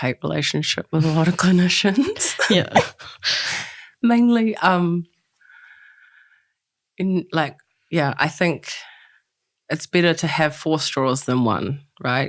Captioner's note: laughs